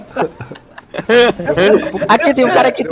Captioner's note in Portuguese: risos